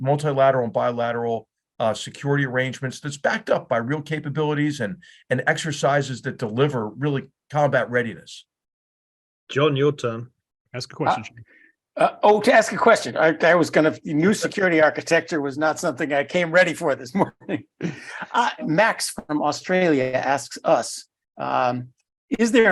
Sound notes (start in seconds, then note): 17.2 laugh